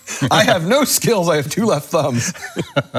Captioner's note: laughs